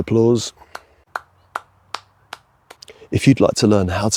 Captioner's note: sound of one person clapping slowly